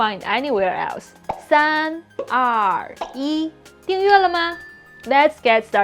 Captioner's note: speaking in Mandarin